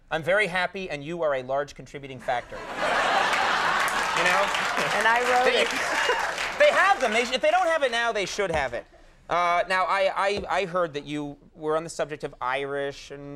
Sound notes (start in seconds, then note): 2.4 audience laughing